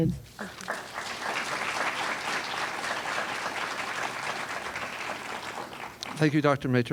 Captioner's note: applause